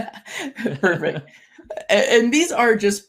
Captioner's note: both laughing